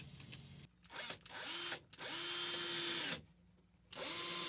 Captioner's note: whirring